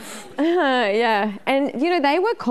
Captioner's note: laughing